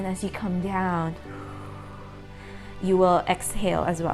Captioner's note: exhales deeply